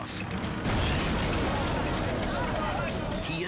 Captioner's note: plane crashes